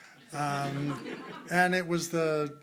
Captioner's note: crowd laughing